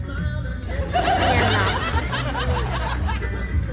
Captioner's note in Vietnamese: Tiếng cười